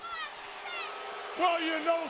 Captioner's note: audience booing